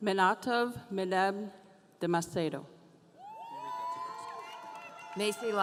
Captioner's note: audience cheering